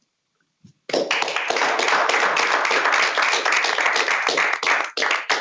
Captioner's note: applause